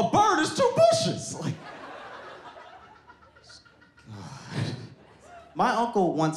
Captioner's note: audience laughs